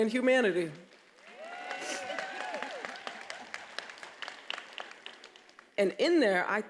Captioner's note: attendees applauding and cheering